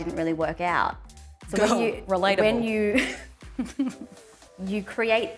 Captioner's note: laughing